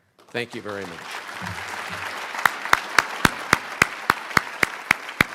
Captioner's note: crowd applauding